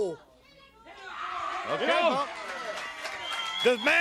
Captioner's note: crowd cheering